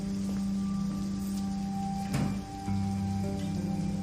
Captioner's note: door closes